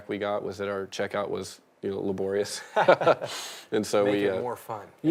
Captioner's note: laughing